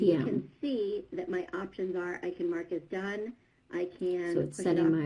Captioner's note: other video playing in background